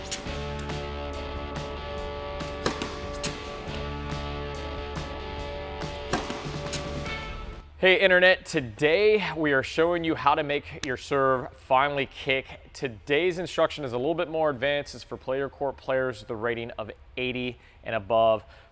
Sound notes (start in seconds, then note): 0.0 ball striking racket